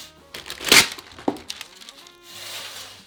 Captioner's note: paper ripping; pan sliding